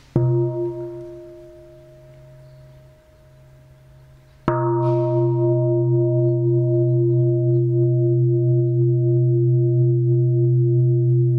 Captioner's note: bell sounds